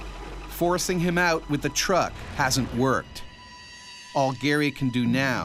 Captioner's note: voiceover